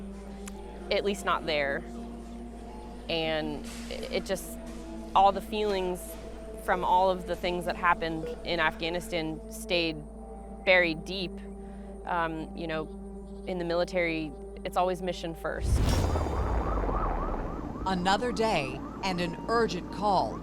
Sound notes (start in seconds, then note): 15.5 distant siren howling; 15.6 helicopters rumbling